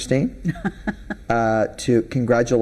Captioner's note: laughing